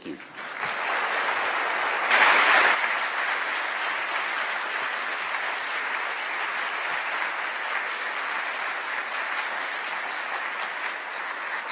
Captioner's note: applause